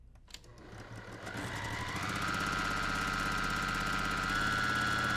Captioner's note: sewing machine humming